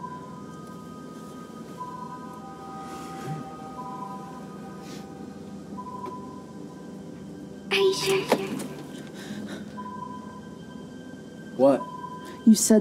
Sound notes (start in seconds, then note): 0.3 ominous music continues; 9.1 gasps